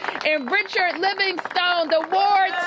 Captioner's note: cheers and applause